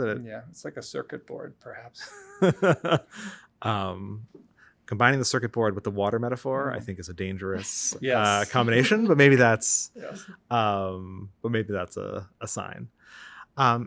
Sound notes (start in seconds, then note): 2.0 laughs